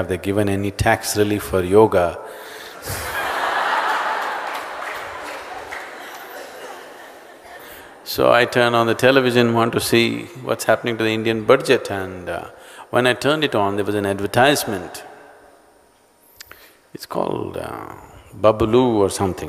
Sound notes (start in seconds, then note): 5.8 laughter and applause